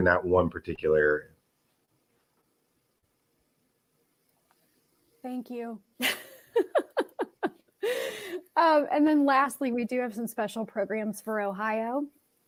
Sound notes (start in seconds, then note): 6.0 laughter